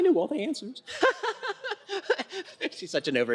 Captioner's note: laughter